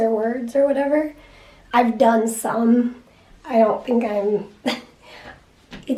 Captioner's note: laughs